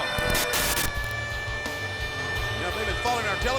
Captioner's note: TV static hissing; air siren blaring